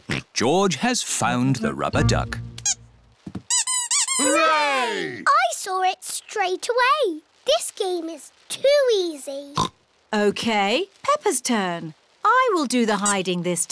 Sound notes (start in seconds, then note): 3.5 duck squeaks; 9.4 oinks